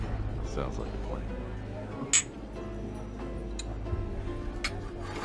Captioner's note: glasses clinking